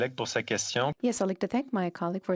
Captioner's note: speaking in French